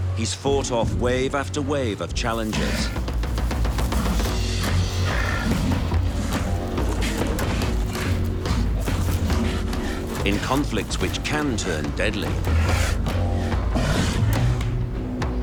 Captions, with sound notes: he's fought off wave after wave of challengers. (dramatic music) (sea lions grunting) In conflicts which can turn deadly.